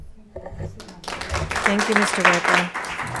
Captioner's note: crowd applauding